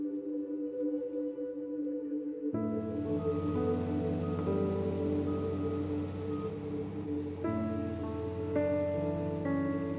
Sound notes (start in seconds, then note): 3.0 vehicle reversing beeping; 7.2 calming music